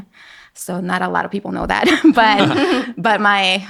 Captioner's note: laughing